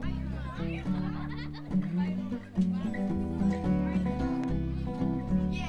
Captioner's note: children chattering energetically